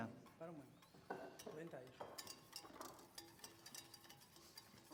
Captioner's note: non-english speech